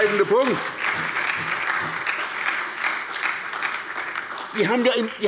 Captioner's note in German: Beifall bei der SPD